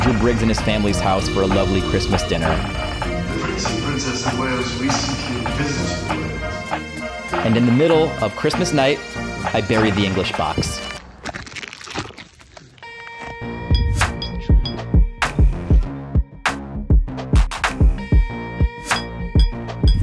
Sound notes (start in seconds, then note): 11.2 rustling sound; 13.5 beeps